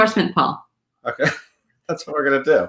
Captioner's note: laughs